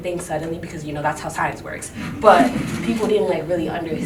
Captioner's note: group laughing